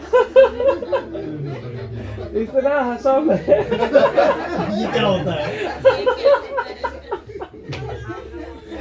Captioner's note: audience laughter